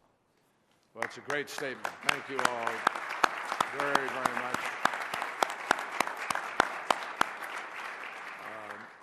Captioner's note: applause